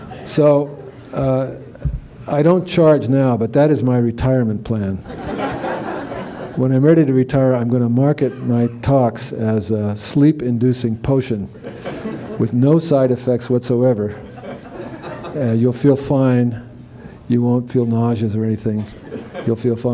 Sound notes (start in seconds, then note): 1.6 laughter; 9.6 laughter